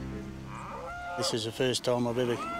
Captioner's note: cow lowing